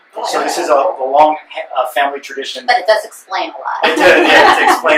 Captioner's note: laughter